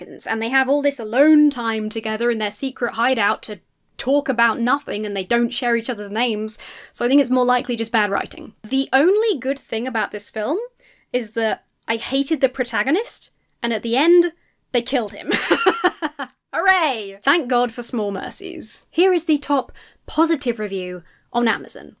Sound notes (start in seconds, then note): 15.2 laughs